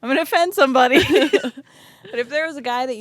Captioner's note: both laughing